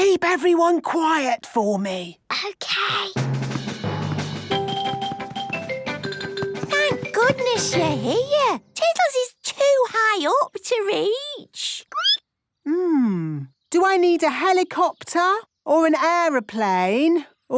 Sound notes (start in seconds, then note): 3.2 rapid music; 11.3 squeaking